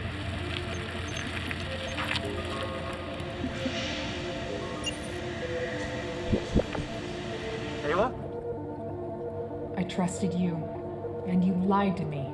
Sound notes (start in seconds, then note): 0.5 bicycle brakes squealing; 2.8 incoming ringtone; 4.6 digital warble